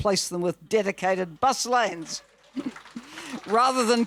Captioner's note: audience clapping